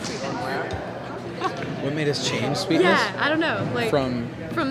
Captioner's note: laughs